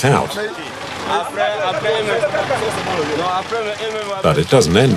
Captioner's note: foreign language